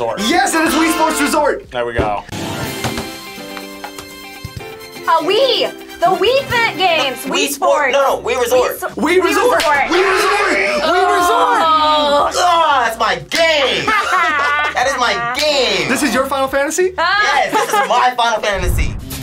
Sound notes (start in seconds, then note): 2.7 upbeat music; 13.4 group laughs